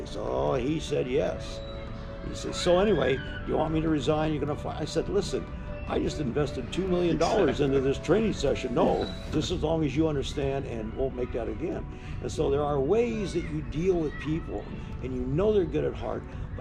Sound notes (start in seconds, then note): 7.2 laughter